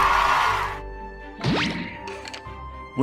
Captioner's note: jeffpicksupcube.mp3